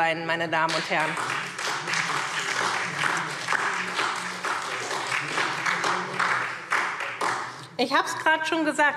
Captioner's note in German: Beifall SPD und DIE LINKE